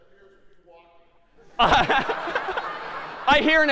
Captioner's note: laughter